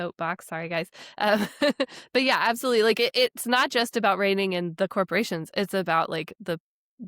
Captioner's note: chuckles